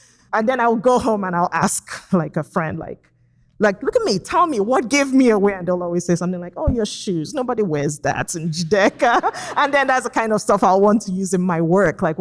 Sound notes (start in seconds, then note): 8.7 laughs